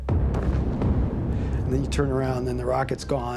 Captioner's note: explosion